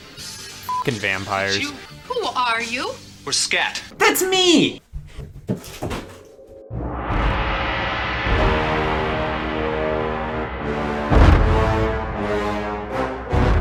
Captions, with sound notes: (beep)ing vampires. - Who are you? - We're SCAT. - That's me! (suspenseful music)